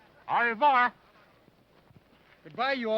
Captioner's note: speaking foreign language